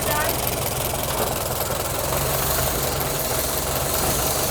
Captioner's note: engine idles